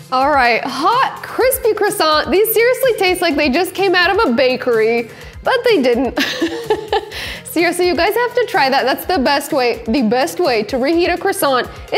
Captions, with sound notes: All right. Hot crispy croissant. These seriously tastes like they just came out of a bakery, but they didn't. (laughs) Seriously, you guys have to try that. That's the best way, the best way to reheat a croissant,